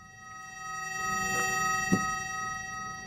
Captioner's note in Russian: звонкий звук